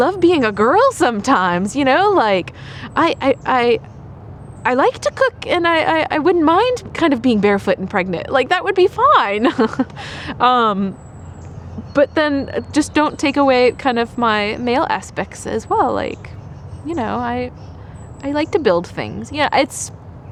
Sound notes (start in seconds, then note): 9.3 laughter